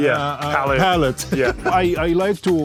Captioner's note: chuckles